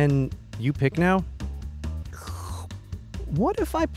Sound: sips tea

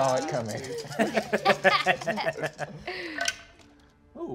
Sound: all laugh

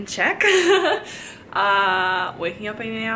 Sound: chuckles

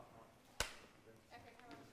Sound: clap

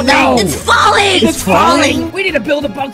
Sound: crowd

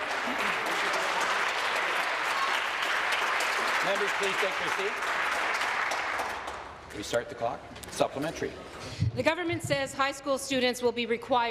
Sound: applause

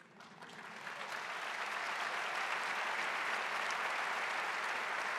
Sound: audience applauding

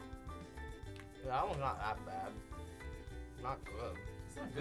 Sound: mouth full

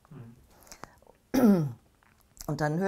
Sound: clears throat

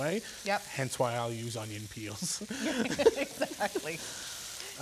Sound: laughing

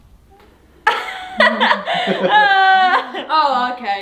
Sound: laughs

